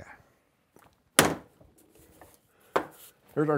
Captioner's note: dropping of stand on table